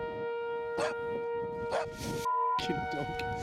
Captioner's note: dog Barks Off screen